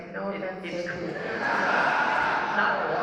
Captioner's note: laughter